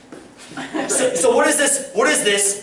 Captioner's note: laughter